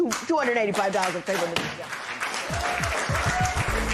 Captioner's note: applause; cheering